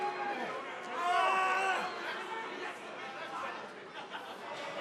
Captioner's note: shouting